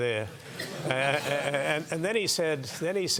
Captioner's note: laugh